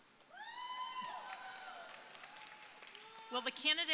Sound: audience cheering

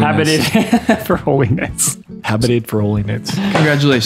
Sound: laughs

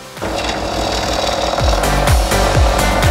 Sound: motor rattling; soaring electronic music

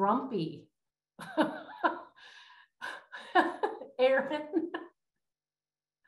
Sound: laughter

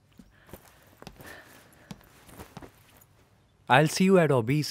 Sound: footsteps

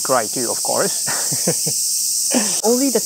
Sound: chuckles

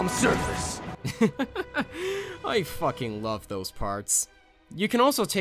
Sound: laugh

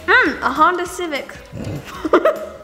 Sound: laughs

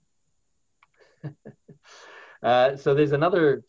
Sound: laughs lightly

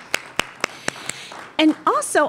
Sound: applause

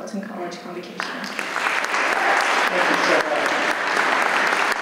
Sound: audience applauds

